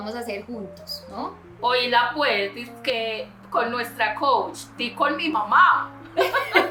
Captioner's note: laughs